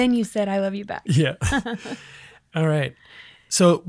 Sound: laughs

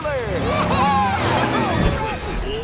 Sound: cheering

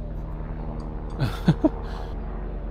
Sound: laugh

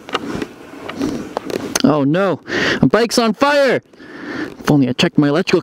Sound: sniffing

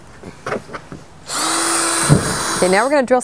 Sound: drill whirring

